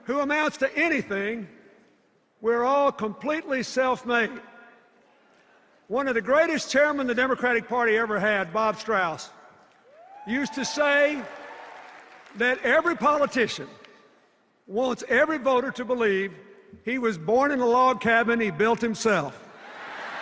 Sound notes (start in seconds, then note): 9.8 cheers; 19.6 laughter and cheers